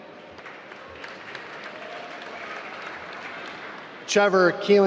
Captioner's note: applause